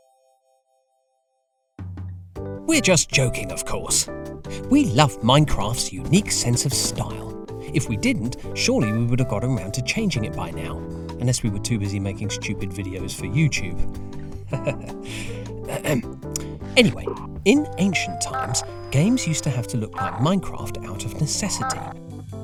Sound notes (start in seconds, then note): 14.6 awkward chuckle, clears throat